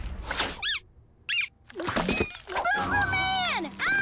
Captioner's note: kaboom; squeaking